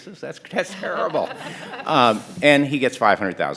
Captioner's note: panelists laughing